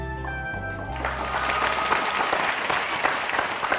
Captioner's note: applause